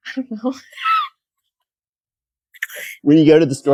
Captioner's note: laughing